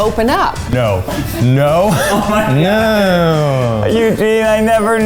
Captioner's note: laughing